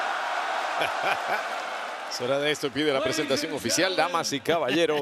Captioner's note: laugh